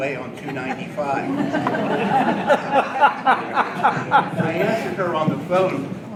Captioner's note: audience laughing